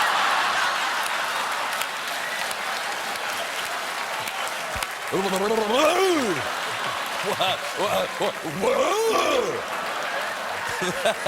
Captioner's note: laughter